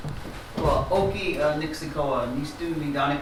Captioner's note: non-english speech